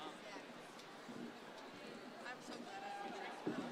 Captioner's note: crowd chattering